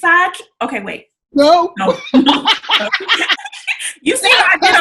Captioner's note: laughs